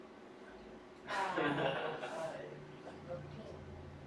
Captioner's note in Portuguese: risos